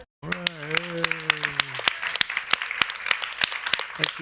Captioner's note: applause